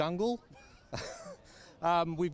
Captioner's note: both laughing